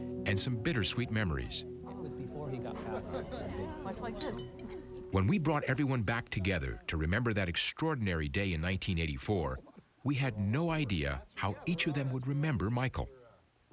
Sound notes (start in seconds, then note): 1.8 chatter and laughter